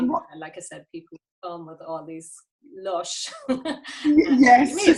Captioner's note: laughs